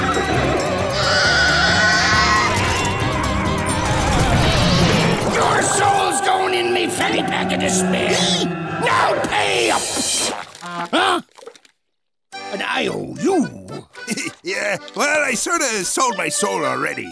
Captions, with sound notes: [screeching] Your soul's going in me fanny pack of despair. [shrieking] Now pay up! Huh? An I owe you? Yeah, well, I sorts sold my soul already.